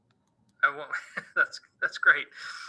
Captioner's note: laughing; laughs